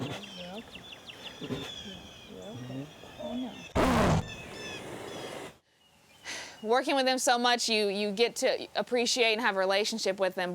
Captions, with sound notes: You're okay. Yes, you're okay. (loud roar) Working with them so much you get to appreciate and have a relationship with them,